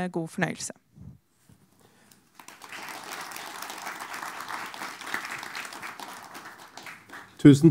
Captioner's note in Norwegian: applaus